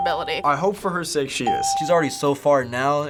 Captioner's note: ding